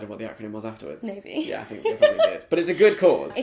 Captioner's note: laughs